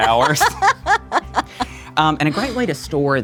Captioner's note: laughs